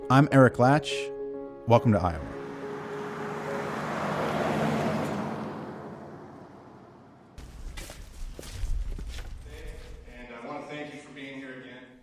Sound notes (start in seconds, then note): 2.3 truck whooshing; 2.6 pleasant piano music; 7.4 footsteps crunching